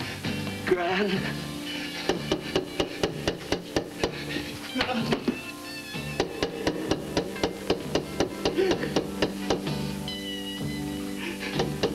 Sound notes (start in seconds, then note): 0.6 john, in terror; 6.1 insistent knocking on door continues; 8.4 sobbing